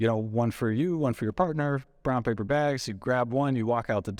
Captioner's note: none